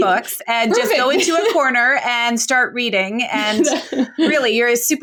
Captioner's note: laughs